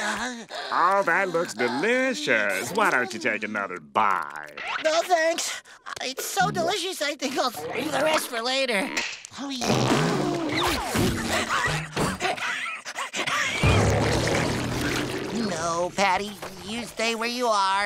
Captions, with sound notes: Oh, that looks delicious. Why don't you take another bite? No, thanks. It's so delicious I think I'll keep the rest for later. [retching] [wheezing] No, Patty, you stay where you are.